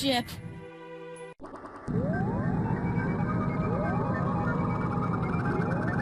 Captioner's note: teleportation sounds